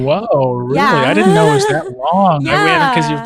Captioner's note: laughing